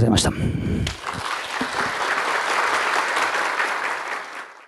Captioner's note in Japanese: 拍手